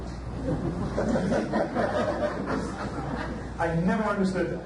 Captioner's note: audience laughs